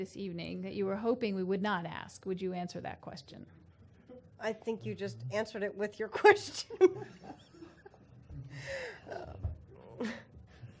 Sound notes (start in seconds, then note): 6.6 laughter